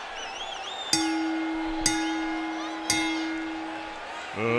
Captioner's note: bell dings